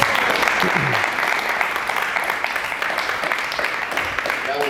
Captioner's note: applause